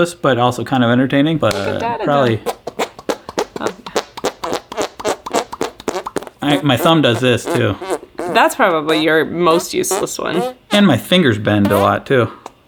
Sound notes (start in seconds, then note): 2.6 squeaking